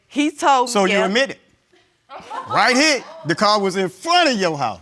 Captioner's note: audience gasps